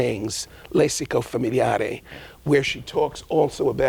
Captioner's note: speaking in a foreign language